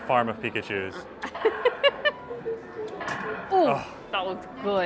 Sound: laughs

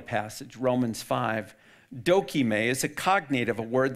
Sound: speaks in foreign language

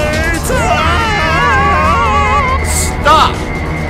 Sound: screaming continues

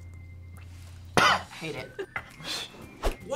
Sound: coughs

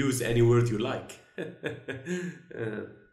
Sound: laughs

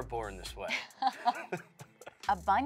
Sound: laughing

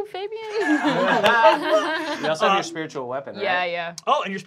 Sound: laughing

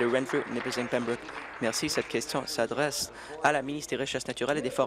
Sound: applause

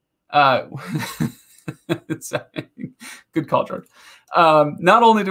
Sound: laughing

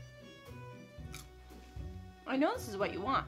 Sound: relaxing instrumental music; chip crunching

